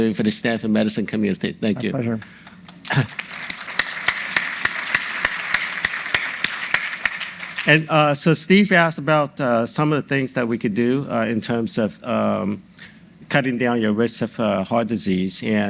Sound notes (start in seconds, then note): 2.5 audience applauding